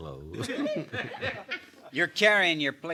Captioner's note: laughter